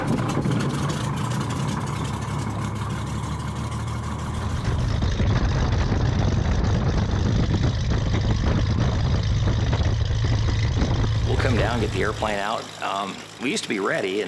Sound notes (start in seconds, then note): 7.2 engine starts